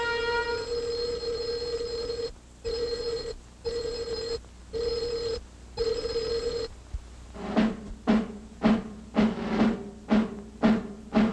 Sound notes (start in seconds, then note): 0.0 loud ringing; 7.4 marching music